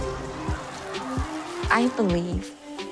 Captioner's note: crowd protesting